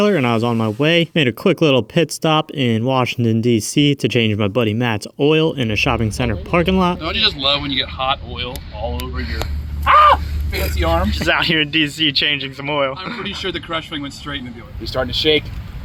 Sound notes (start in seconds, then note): 9.8 manly shriek